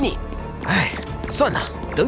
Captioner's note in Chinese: 叹气